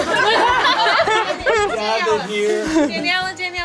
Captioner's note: everyone laughs